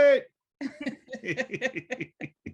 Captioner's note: laughter